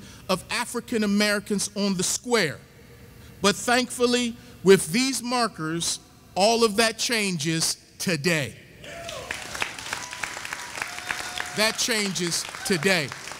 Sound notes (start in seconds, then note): 9.0 audience applauding